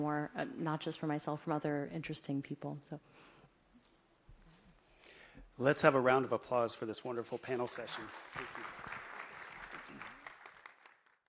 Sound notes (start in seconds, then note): 3.8 applause